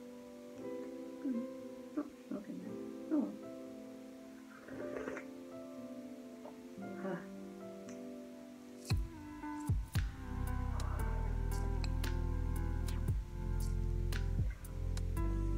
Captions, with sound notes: Hmmm... there's not that much milk in there oh well! *ssllllluuuurrrpppp*